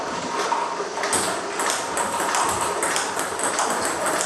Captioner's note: ball ping pong hitting